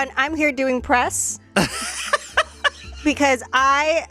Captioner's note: laughs